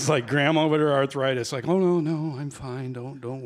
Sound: in grandma voice

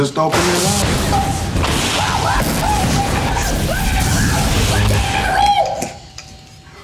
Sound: Cedric screaming

